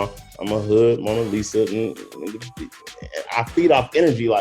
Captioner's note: stammers